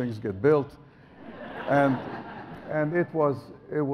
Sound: audience laughs

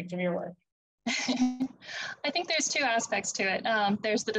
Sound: laughs

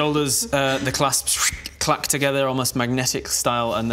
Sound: zwosh

